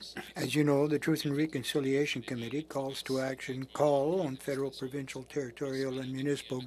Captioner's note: speaking French